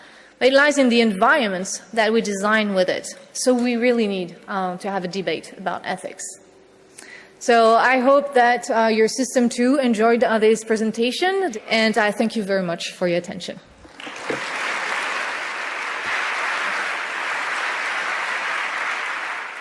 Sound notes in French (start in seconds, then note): 13.8 applaudissements